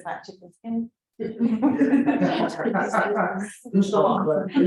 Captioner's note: laughter